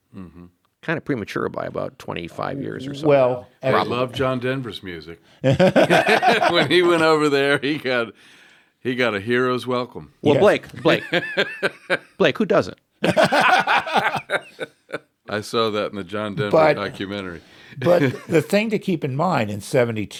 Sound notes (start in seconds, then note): 6.2 laugh; 13.0 laugh; 13.0 laughs; 17.7 laughs